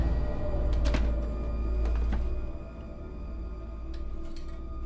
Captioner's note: dark eerie music; door clicks